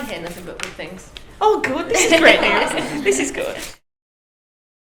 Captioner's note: class laughing